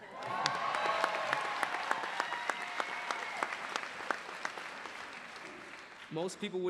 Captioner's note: applause